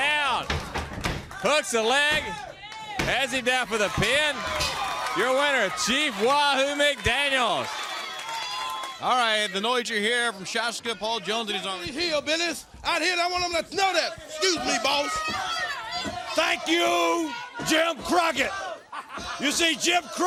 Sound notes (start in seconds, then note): 15.5 crowd chatter